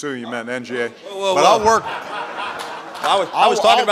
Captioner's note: laughter